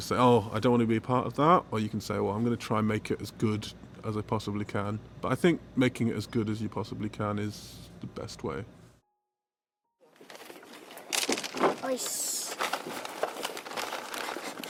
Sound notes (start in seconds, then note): 12.0 speaks Korean